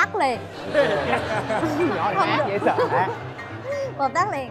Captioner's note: laughing